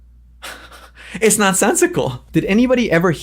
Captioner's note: laughs